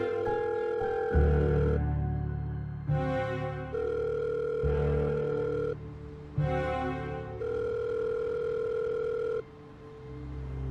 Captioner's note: telephone ringing